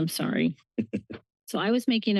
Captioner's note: chuckling